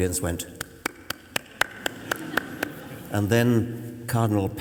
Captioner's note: tepid applause